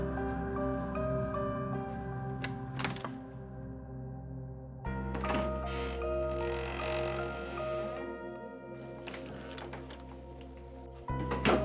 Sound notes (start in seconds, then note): 0.1 gentle music; 5.0 door creaks; 6.0 gentle music